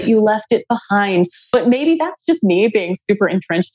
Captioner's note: laughs